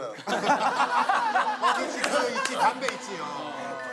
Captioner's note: laughter